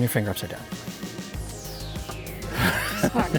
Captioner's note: guide laughing